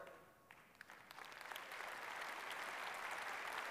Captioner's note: applause